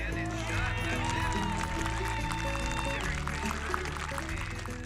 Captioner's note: instrumental music; audience applauds